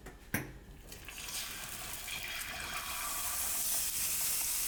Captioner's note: pan sizzling